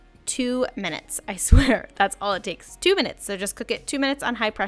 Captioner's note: laughs